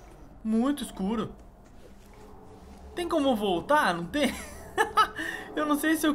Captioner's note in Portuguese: risos